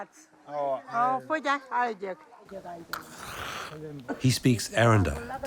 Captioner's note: speaking foreign language